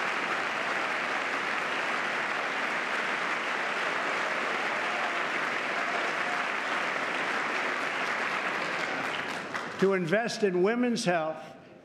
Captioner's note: applause